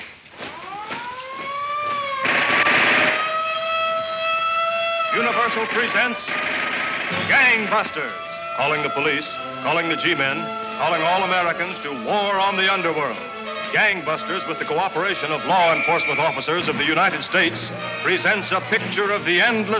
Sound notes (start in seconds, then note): 0.3 siren blaring; 2.2 gunshots banging